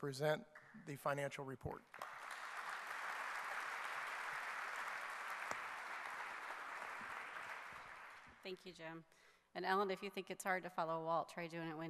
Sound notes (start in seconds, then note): 1.8 clapping